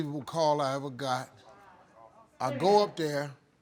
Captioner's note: audience murmuring